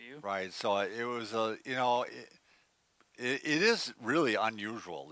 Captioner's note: none